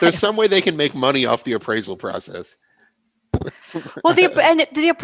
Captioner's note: laughter